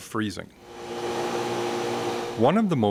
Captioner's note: machine whirring